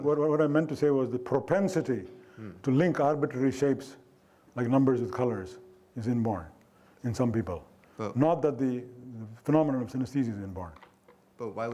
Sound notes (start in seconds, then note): none